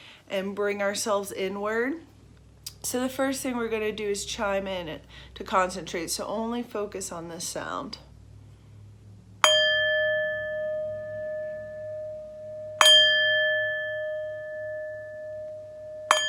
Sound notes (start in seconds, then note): 9.4 singing bowl ringing